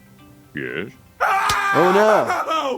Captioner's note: screaming